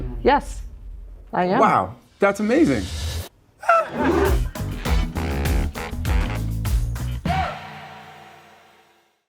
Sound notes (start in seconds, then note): 3.6 Channing shrieking; 3.6 all laughing; 5.5 upbeat music